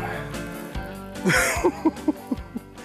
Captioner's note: laughs